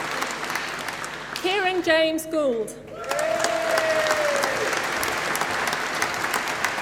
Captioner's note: applause